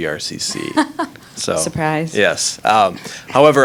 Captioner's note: laughing